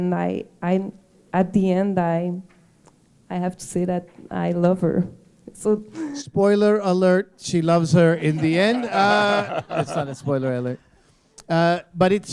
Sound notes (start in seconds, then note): 8.7 chuckle